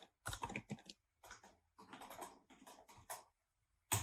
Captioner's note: keyboard clicking